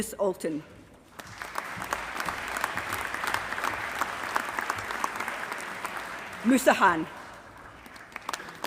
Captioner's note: applause